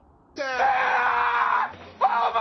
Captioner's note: screams loudly